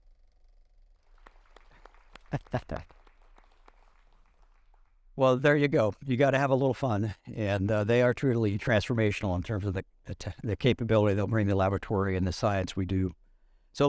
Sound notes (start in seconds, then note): 1.0 audience applauding; 2.0 chuckling